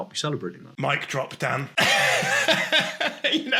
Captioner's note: laughs